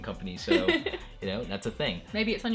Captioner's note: laughter